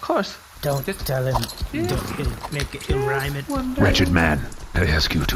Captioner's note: quietly